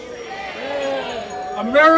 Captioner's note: audience cheering